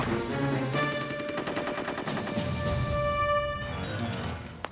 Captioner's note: gunfire echoes